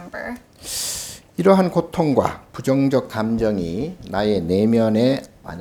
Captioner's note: speaking Korean